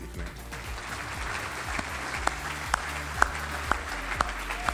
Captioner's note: audience applauding